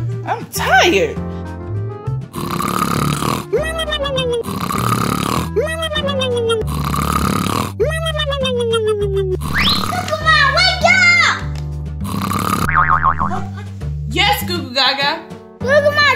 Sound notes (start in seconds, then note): 2.3 Goo Goo Mom snoring; 12.0 Goo Goo Mom snoring